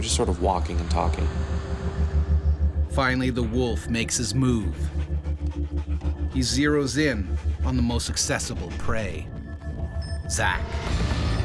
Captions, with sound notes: We were just sort of walking and talking. - [Voiceover] Finally the wolf makes his move. He zeroes in on the most accessible prey. Zach.